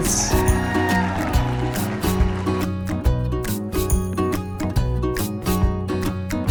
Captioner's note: audience cheers and applauds; cheerful music continues